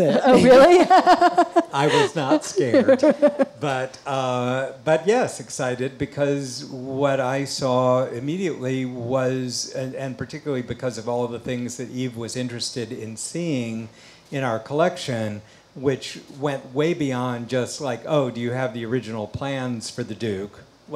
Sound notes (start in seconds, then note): 0.1 all laugh